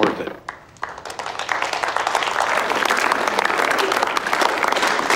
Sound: audience clapping

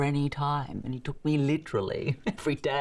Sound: chuckles

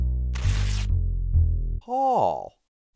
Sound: tearing

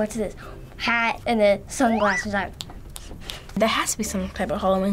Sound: snaps

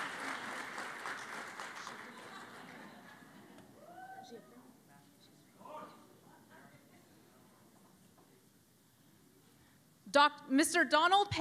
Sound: cheering and Applause

